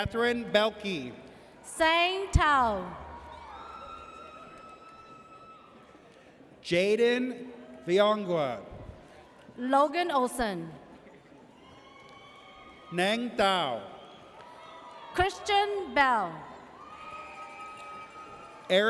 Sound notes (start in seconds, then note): 2.6 audience cheers; 11.6 audience cheers